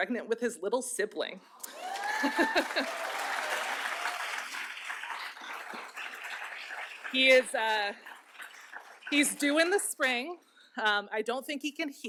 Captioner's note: applause